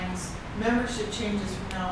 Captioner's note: tape disturbance